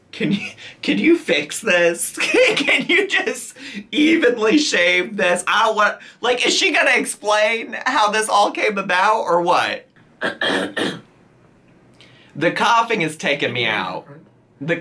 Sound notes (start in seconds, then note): 10.2 coughs